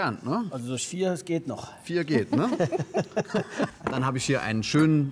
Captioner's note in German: Lachen